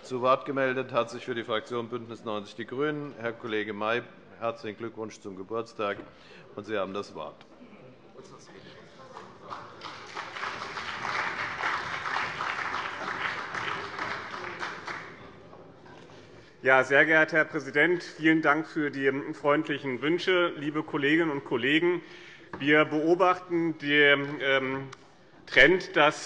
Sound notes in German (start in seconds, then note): 9.1 Allgemeiner Beifall